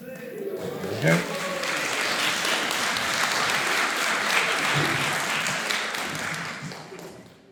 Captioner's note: applause